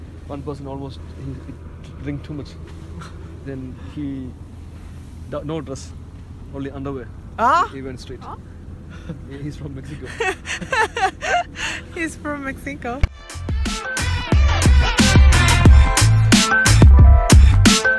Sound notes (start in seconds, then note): 9.9 laugh